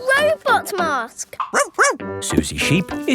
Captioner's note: barks